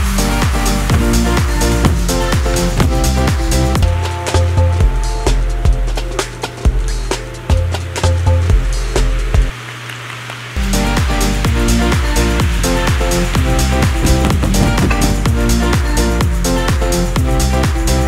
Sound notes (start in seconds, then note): 0.4 fast dance music; 4.3 fun dance music; 9.5 clapping; 11.5 fun dance music